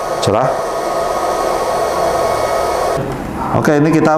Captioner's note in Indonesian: suara mesin